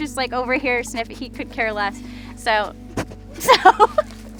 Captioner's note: laughs